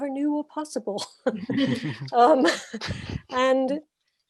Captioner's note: laughs